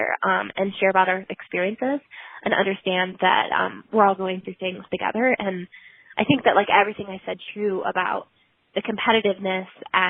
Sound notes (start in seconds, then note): none